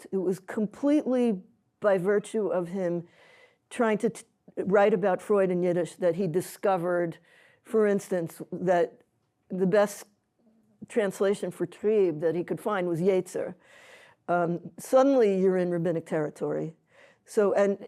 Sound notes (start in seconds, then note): 13.2 non-english